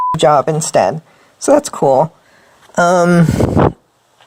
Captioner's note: sarcastic tone